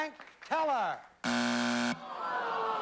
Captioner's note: buzzer